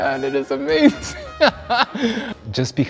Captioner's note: laughs